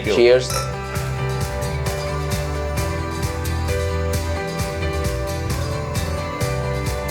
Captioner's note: glasses clinking